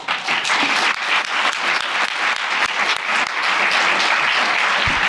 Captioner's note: applause